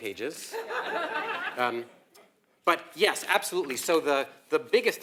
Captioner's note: laugh